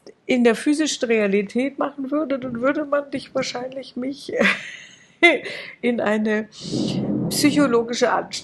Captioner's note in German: gelächter